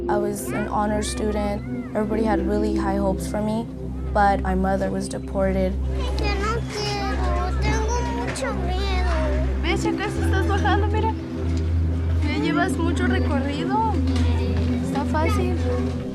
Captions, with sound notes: I was an honor student. Everybody had really high hopes for me, but my mother was deported [Spanish]